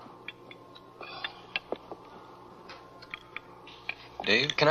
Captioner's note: David sighs